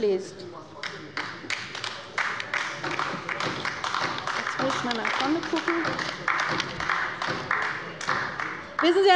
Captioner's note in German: Beifall bei der LINKEN